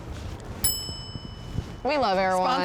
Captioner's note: bell tings